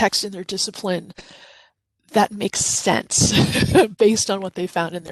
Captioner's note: chuckles